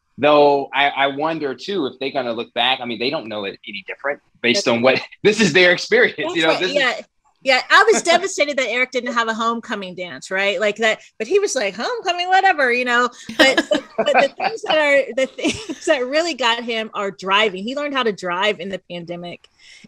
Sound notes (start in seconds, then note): 13.0 laughing